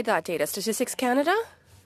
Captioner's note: speaking in French